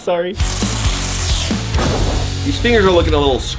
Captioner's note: heavy rock music; spray bottle hissing